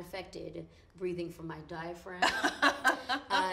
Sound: laughs

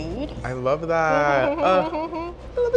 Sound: laughs

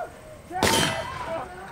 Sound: bang

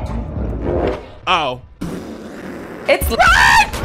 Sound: laughs

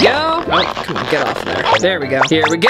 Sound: squeaking

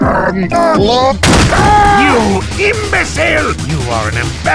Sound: mouse click; door breaks, shocked gasp

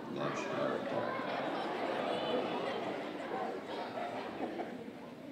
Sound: audience exclaiming

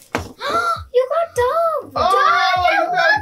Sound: gasping

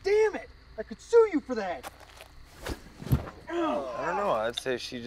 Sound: groans

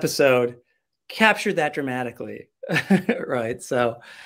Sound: chuckles

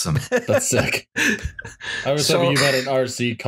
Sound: laughter

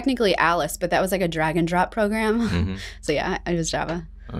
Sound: chuckles

